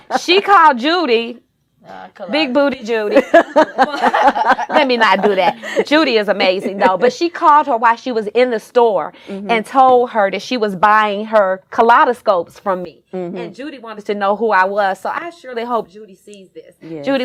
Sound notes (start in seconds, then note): 3.1 laughs happily